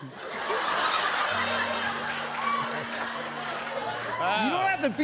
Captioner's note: laughter